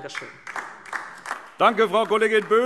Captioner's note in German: Beifall DIE LINKE